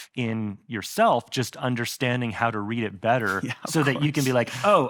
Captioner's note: laughs